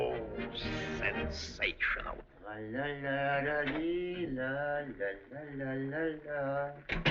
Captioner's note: humming